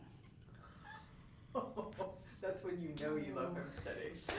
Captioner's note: laughing